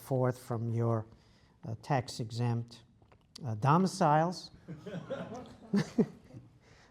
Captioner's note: laugh